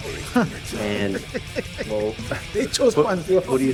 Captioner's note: laughing